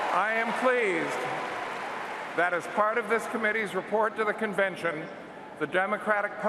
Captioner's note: cheers and Applause